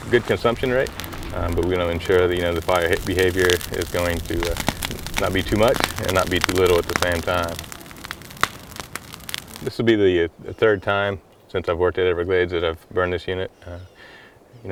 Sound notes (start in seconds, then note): 1.4 crackling flames